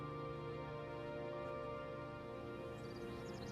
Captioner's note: birds chirping